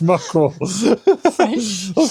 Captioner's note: laughing